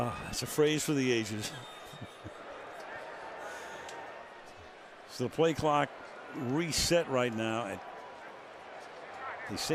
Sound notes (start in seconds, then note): 1.8 laughs